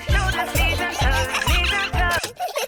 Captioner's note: giggling; music stops